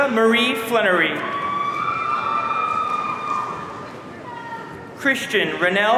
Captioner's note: audience cheering